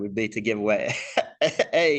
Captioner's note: laughs